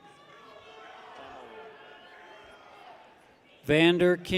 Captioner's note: people cheer